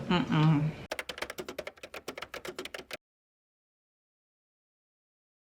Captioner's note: typewriter keys clacking